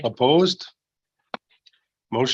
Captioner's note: silence